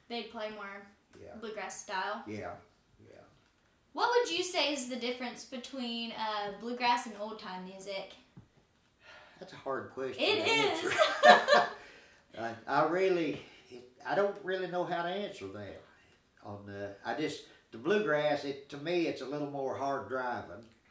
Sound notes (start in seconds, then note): 8.9 sighing; 10.3 laughing